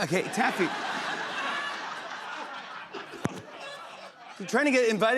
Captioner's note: laughter